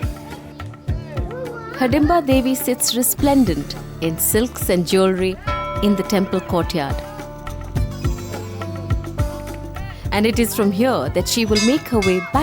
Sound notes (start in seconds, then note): 0.1 soft upbeat music; 5.5 bell chimes; 7.1 upbeat music